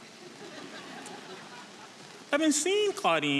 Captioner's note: audience laughing